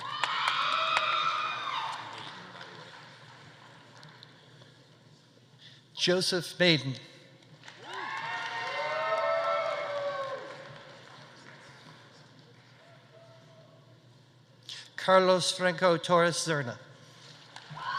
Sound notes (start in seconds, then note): 0.0 audience cheering; 0.0 audience applauding; 7.6 audience applauding; 7.8 audience cheering; 17.8 audience cheering; 17.8 audience applauding